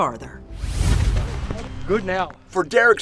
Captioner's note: logo whooshes